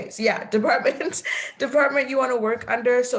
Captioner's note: laughing